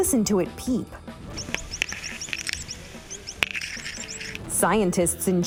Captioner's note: bird chirping